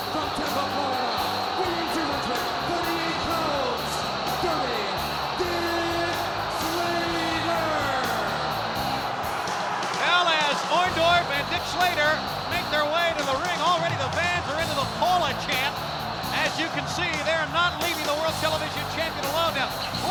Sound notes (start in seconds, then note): 8.7 spectators cheering; 8.7 upbeat music